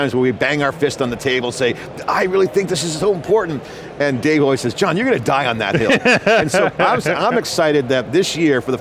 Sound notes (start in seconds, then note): 5.6 laughs